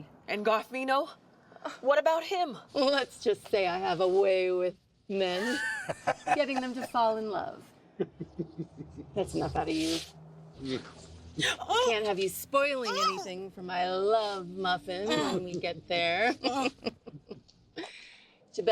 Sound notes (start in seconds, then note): 8.0 Pappy laughs; 12.8 Eleanor yelping; 17.7 laughs